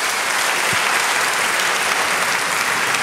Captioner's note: applause